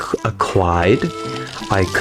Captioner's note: inhales Oxygen